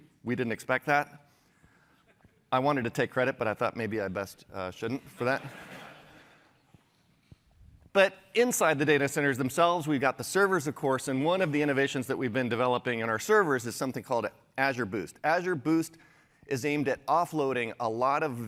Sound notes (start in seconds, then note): 5.0 laughter